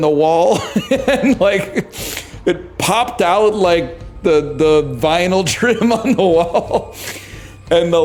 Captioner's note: laughs